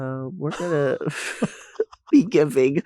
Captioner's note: both laughing